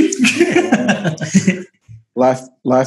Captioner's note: laughter